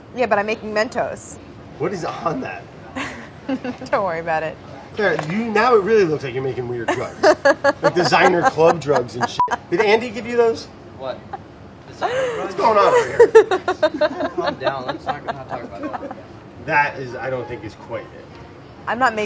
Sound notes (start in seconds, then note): 3.0 laughing; 6.8 laughing; 9.3 beeps